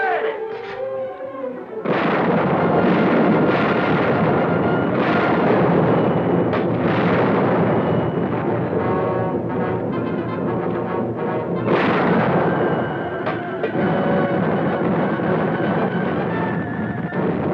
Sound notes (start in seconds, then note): 2.0 bold orchestral music; 2.0 cannons blasting